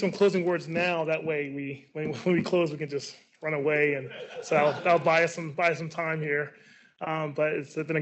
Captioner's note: laughs